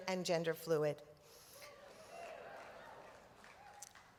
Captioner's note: applause